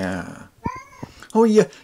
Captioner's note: cat noises